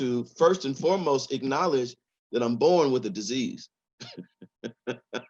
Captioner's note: laughs